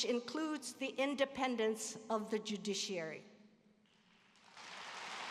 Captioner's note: applause